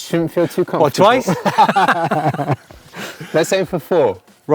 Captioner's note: both laughing